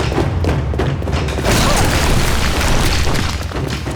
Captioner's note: grunting